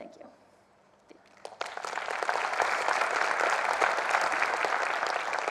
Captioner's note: crowd applauding